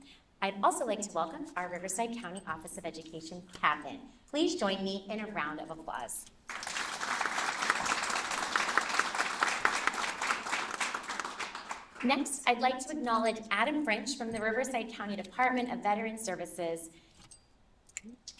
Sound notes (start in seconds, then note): 6.5 applause